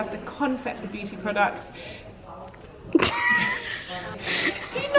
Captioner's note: laughing; laughs